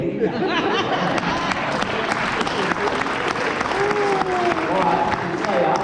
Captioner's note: applause